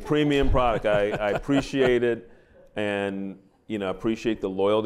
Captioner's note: laughter